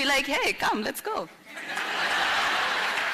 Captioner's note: laughter